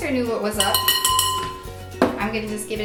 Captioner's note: beater clanking